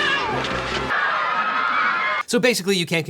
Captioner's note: crowd screaming